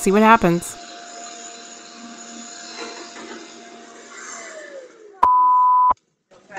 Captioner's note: hear beep,beep